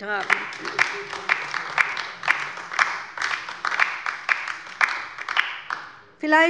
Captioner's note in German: Beifall bei der LINKEN